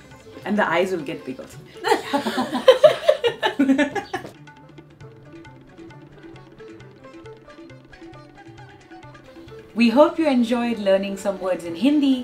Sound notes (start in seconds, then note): 1.8 laughter